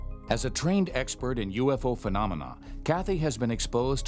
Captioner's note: voiceover